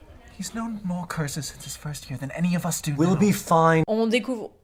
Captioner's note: fed-up-with-you sound